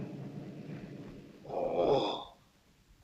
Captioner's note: ohhhh!